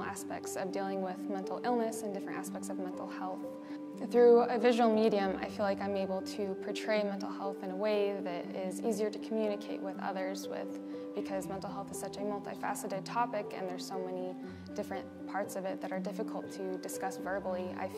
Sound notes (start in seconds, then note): none